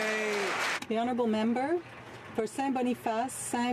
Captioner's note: some Applause